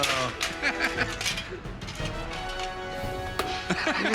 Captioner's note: laughter